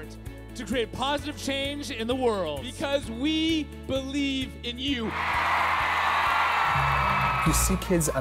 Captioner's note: cheering